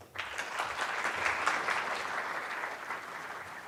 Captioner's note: applauding